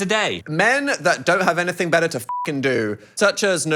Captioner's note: beep